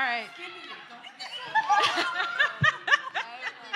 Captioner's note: laughter